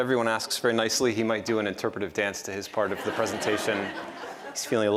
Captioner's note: laughter